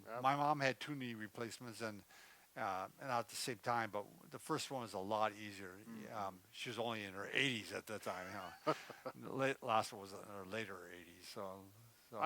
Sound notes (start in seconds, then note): 8.1 laughs